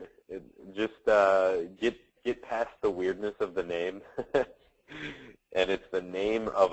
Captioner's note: chuckles